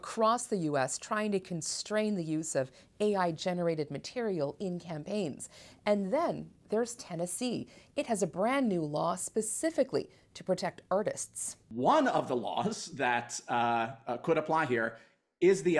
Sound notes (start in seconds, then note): none